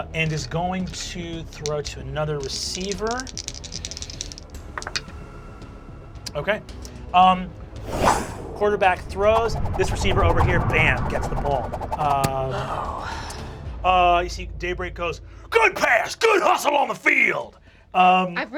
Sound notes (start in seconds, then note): 2.4 rolls dice; 12.5 sighs